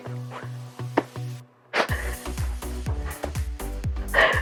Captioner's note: chuckles